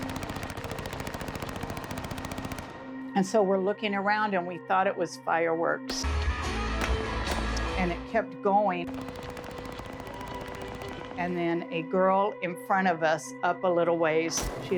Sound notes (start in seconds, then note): 6.6 guitar playing; 8.9 guns firing